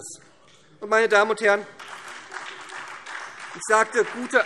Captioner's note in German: Beifall : Und die Allgemeinbildung?